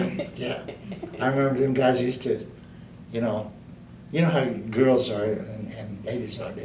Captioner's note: laughter